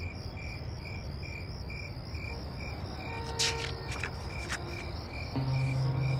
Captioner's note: crickets chirping